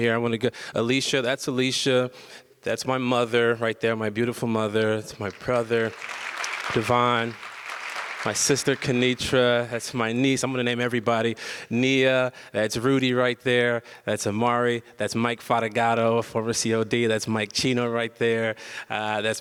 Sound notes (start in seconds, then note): 5.2 audience applause